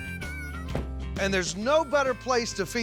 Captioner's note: door closes